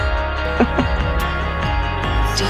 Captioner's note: Helen laughs